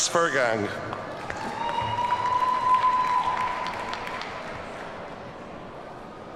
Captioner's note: audience cheers and applauds